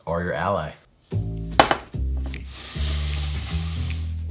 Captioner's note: baking sheet sliding